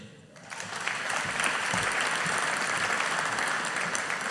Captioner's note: audience applauding